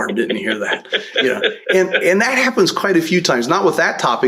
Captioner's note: laughter